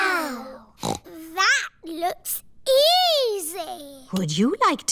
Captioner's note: snorts